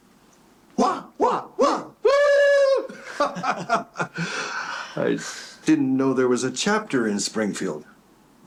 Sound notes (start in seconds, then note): 0.7 silly noises; 3.1 laughing